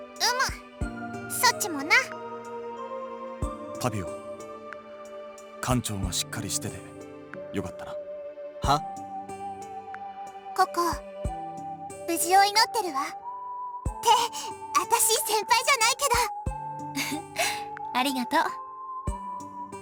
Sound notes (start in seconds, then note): 17.0 chuckle